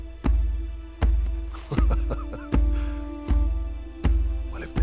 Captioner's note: laughing